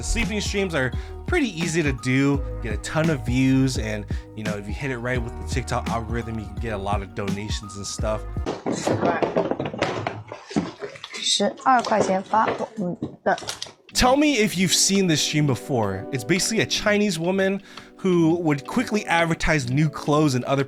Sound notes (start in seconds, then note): 8.7 streamer speaking Chinese